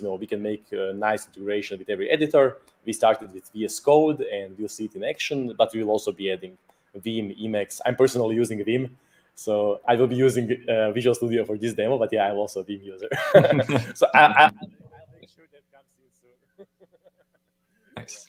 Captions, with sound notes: we can make a nice integration with every editor. We started with VS code and you'll see it in action, but we'll also be adding Vim Emacs. I'm personally using Vim, so I will be using Visual Studio for this demo, but yeah, I'm also a Vim user (laughs). So I'll make sure that comes to you soon (laughs).